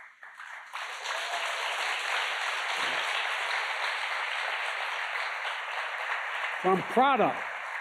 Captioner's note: applause